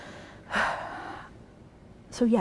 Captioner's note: sighs